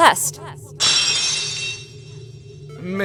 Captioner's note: lock shatters!